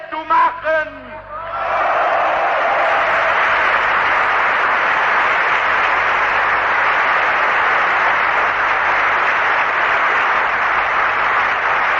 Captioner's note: applause